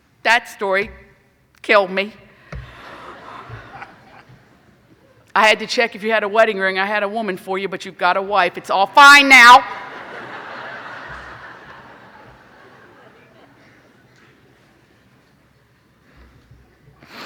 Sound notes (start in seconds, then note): 2.5 clapping; 9.7 laughing